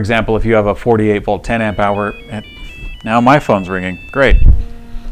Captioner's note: cell Phone Rings